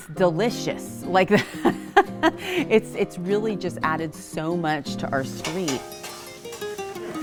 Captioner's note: laughs